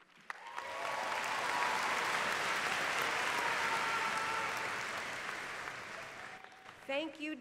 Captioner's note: applause